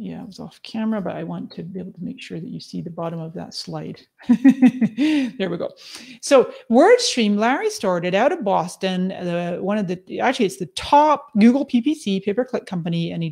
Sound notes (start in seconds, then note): 4.3 laughs